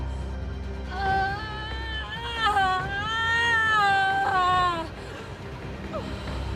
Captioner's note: screaming